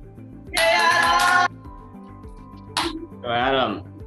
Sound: cheering

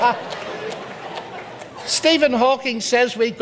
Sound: audience laughs

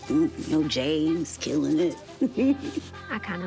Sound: chuckles

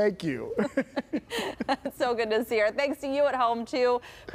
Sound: laughter

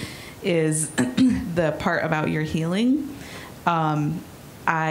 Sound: clearing throat

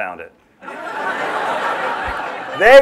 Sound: laughter

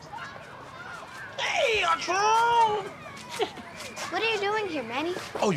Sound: laughs

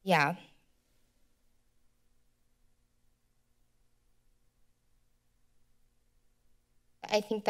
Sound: silence

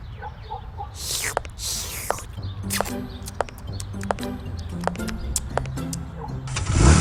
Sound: ice cream eating sound

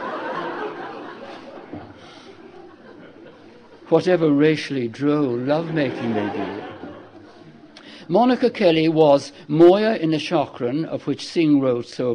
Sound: laughter

